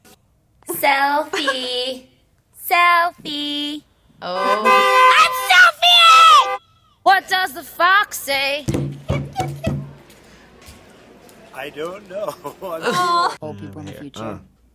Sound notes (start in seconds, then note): 4.3 horns honking; 11.9 laughs